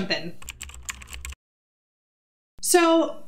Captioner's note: keyboard clicking